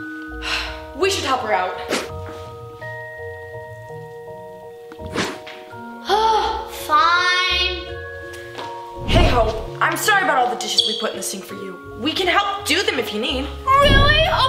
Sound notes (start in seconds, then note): 2.4 somber music playing; 6.0 sighing